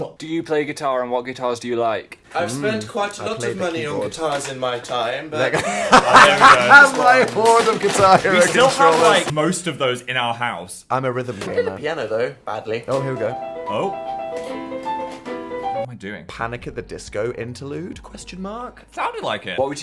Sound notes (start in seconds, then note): 5.4 laughs